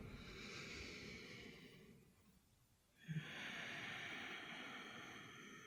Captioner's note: inhale-exhale